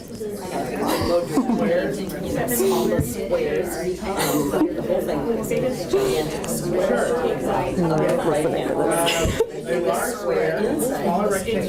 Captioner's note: chatter